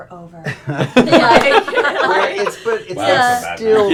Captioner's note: laughter